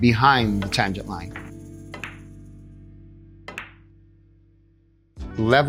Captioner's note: pool table balls clacking